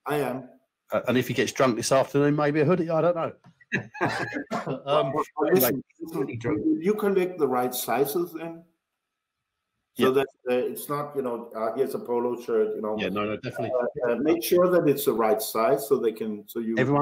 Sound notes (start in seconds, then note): 3.7 panel laughing